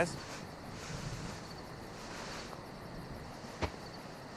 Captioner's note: bugs chirping